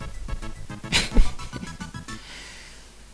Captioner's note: giggles